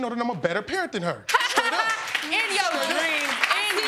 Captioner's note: laughing